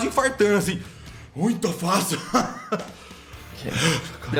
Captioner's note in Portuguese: respira fundo